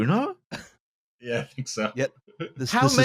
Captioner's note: laughing